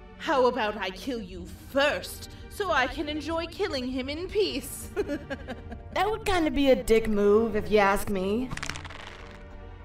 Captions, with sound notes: how about I kill you first so I can enjoy killing him in peace? *Sinister laugh* That would kind of be a dick move if you ask me.